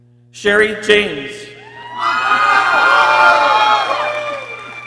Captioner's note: people cheering